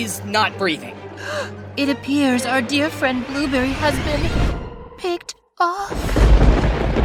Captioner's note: gasp